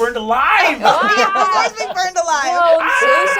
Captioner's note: laughing